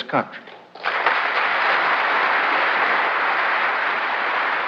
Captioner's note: applause